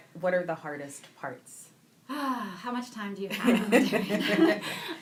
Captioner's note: sighs; laughing